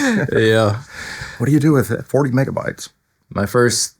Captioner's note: laughing